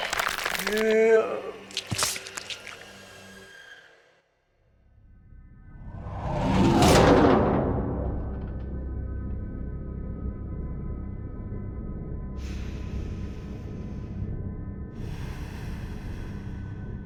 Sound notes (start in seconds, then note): 0.0 flesh tearing and bones snapping; 0.1 painful moan; 1.8 flesh tearing and bones snapping; 12.2 Faint Sakura breaths